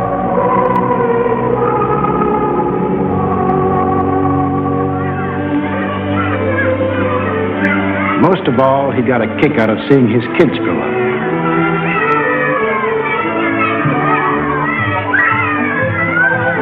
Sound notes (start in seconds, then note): 11.5 children shouting; 13.9 upbeat music